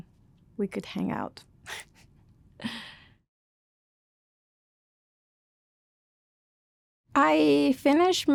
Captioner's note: laughter